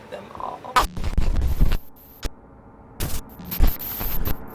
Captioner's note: static